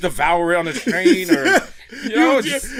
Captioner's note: laughs